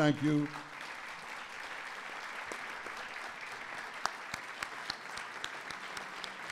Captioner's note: applause